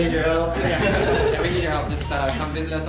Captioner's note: laughter